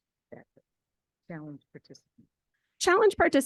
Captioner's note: speaks faintly